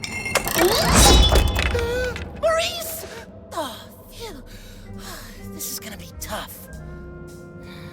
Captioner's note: gasps